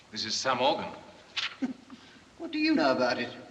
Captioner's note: scoffs